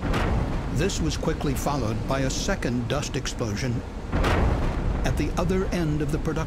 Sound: sound of explosion; sound of explosion

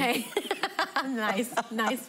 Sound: laughing

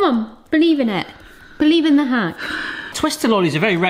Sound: sighs

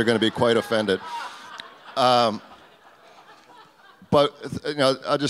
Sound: audience laughs

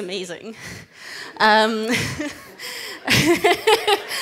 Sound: everyone laughs

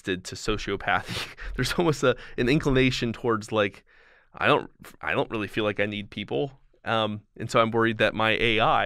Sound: chuckle

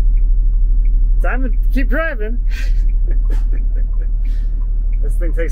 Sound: chuckling

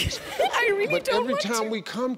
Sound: laughing

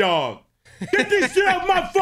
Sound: laughs

